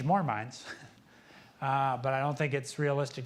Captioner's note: laughs